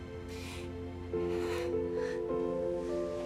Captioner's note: sighs